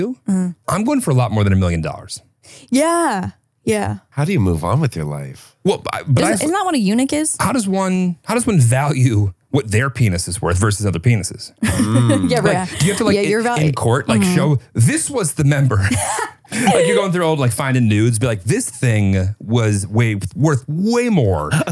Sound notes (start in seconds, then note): 11.6 chuckles